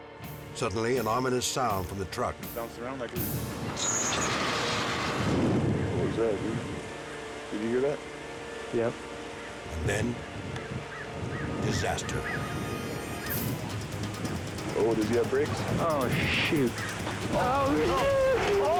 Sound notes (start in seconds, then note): 3.6 truck clanking; 12.1 tense music; 17.2 screams indistinctly